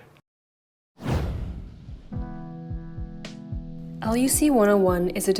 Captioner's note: air whooshing